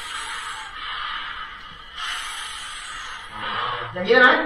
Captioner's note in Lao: ສຽງກີດຮ້ອງ